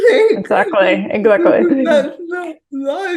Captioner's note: both chuckling